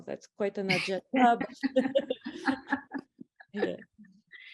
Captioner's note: both laugh